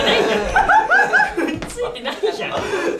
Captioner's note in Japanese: 爆笑